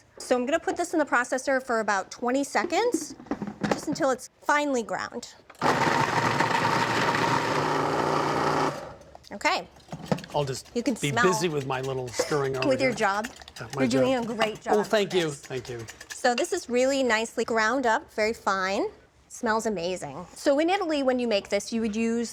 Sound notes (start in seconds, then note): 5.7 processor whirring; 8.8 processor stops